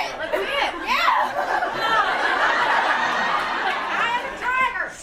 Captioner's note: audience cacophony